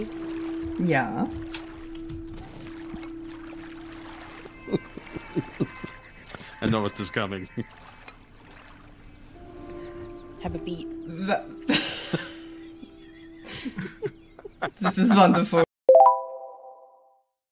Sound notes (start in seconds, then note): 4.4 laughs; 11.6 laughter